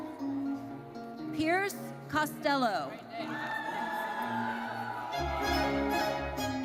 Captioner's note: audience cheers